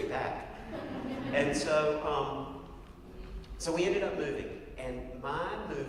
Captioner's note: laugh